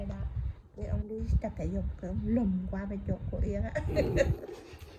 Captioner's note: laugh